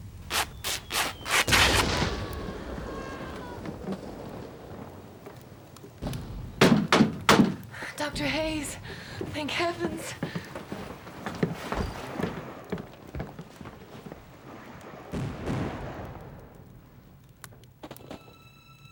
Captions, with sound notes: (fabric rips) (cannon fire and screaming) (banging) Doctor Hayes, thank heavens! (intermittent gunfire)